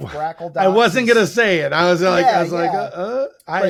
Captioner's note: grunts